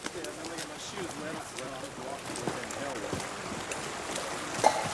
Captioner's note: soft chattering